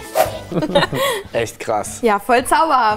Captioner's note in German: Lachen